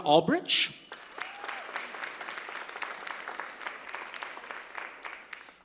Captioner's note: applause